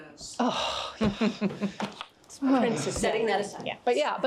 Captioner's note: all chuckling